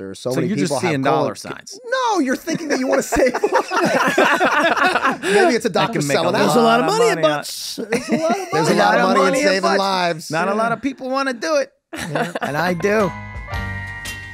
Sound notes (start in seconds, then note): 2.3 everyone laughing; 11.9 Meg laughing